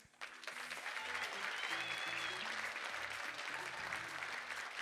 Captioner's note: audience applauding